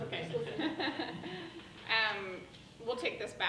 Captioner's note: laughing drowns out speaker